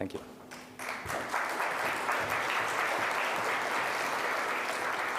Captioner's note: audience applauding